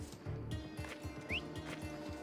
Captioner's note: whistle